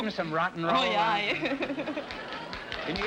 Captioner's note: laughs